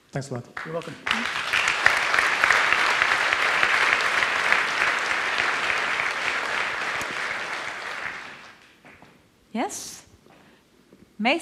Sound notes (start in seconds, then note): 2.4 audience applauds